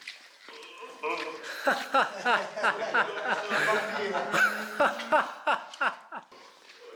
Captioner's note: this is the sound of happy laughter